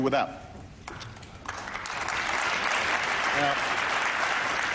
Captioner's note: applause